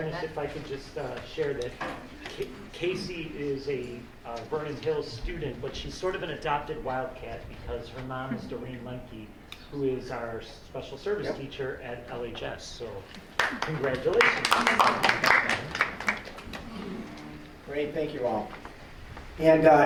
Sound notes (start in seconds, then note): 14.9 applause